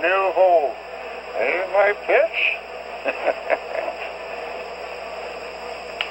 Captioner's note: laughs